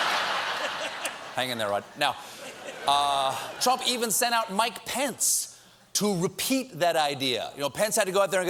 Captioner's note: laughter